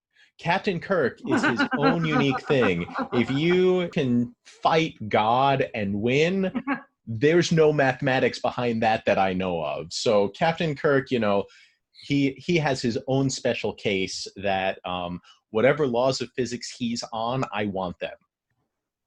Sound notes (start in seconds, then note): 1.2 laughs